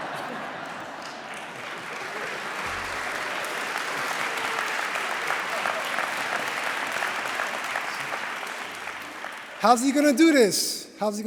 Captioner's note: laughter; applause